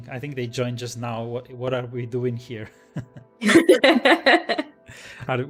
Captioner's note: laughs